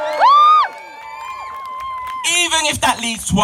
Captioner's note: applause